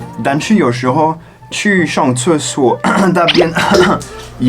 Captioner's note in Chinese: 咳咳